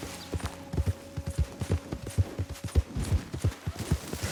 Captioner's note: none